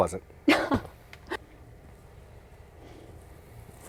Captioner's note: laughing